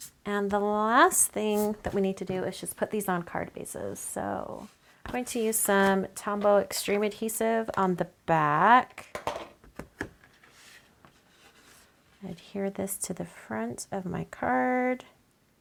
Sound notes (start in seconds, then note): 9.1 table banging